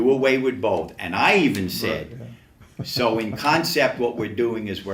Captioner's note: chuckles